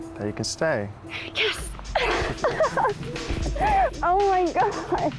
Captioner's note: laughing